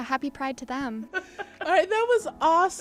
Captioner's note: laughter